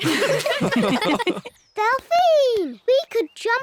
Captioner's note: all giggle